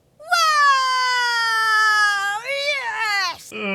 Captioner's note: crowd cheering